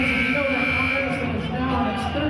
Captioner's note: buzzer sounding